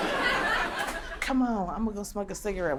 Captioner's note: crowd laughter fades